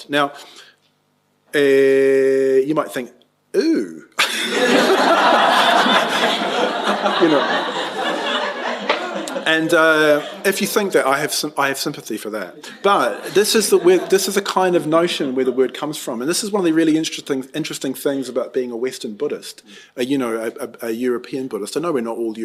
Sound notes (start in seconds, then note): 4.2 laughter